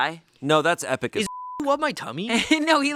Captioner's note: beep